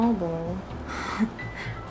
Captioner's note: laughs